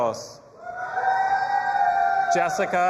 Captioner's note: audience applauding and cheering